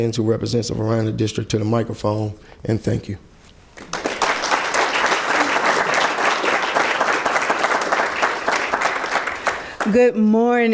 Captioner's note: clapping